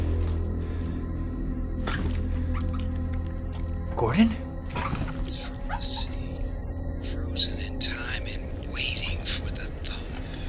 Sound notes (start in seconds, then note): 1.8 body crunching